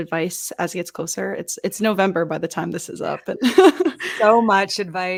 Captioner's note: laughs